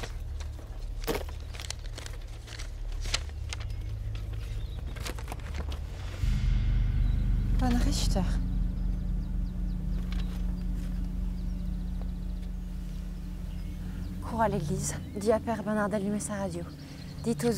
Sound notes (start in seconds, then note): 4.1 papers rustling; 5.7 ominous music; 6.8 Ellie speaks in French